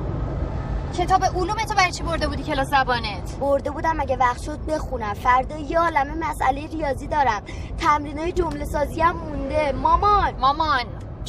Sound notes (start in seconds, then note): none